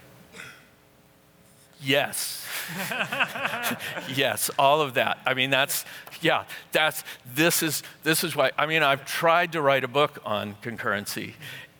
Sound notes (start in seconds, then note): 2.5 laughter